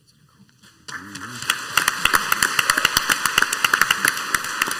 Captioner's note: crowd applauds